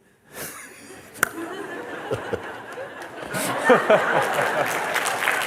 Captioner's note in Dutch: gelach en applaus